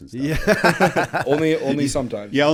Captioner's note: laughter